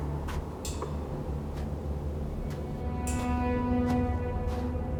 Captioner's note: dramatic music; footsteps approaching